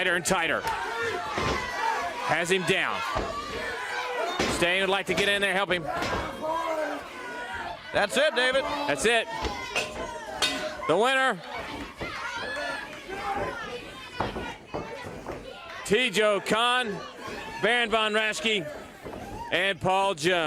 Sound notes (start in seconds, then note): 4.2 crowd cheering; 10.8 bell ringing